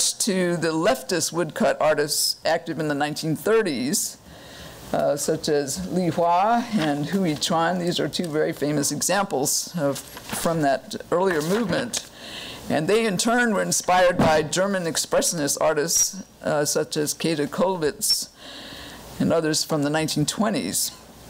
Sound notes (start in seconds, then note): none